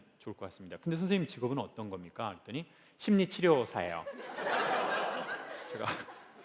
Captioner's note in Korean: 웃음